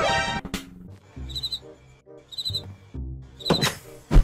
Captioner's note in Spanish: Sonido de grillo